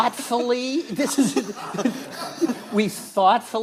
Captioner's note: audience laughing